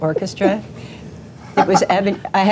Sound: laughing

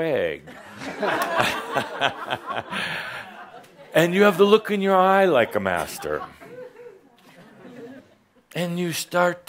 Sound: audience chuckles as Adamus is demonstrating

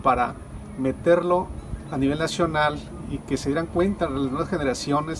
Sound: speaking Spanish

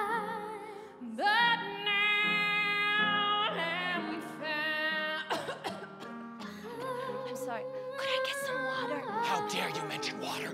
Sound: coughing

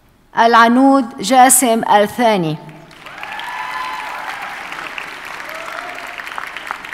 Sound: audience cheers and applauds

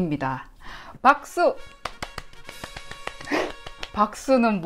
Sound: clap clap clap

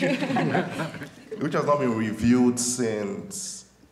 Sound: laughter

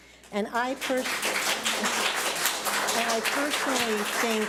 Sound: public applauding

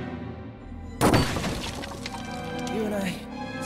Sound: crashing

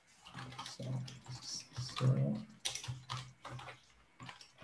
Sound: keyboard clattering

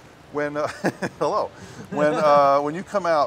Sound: laughter

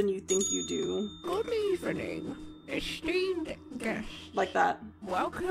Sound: bell Rings; voice Over Crackly Speaker

